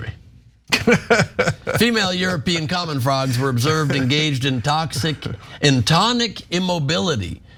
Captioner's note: laugh